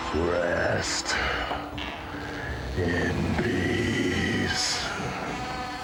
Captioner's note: coffin creaks